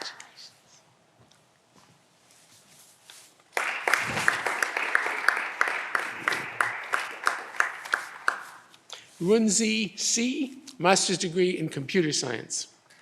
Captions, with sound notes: Congratulations. (audience applause) Runze Si, Master's degree in Computer Science.